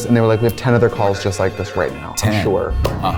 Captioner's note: cars honking; phones ringing